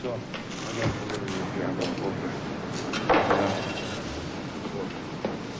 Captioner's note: talking softly